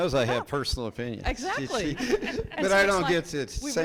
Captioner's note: people laughing